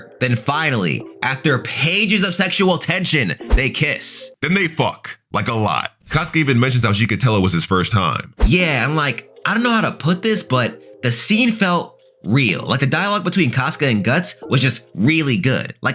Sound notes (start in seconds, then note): 3.4 air whooshing; 8.4 air whooshing